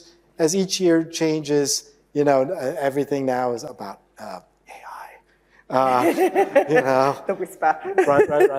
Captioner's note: whispers